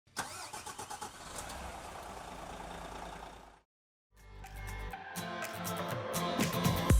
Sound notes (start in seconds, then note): 0.1 car starter sounds; 4.2 upbeat music